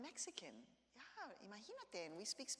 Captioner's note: speaks in Spanish